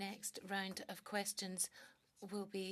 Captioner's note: speaking French